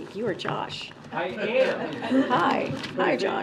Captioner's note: laughter